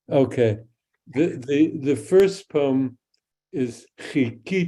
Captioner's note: speaks in Hebrew